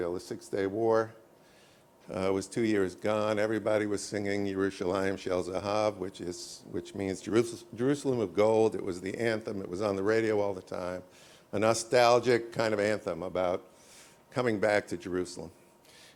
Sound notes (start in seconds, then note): 5.5 hebrew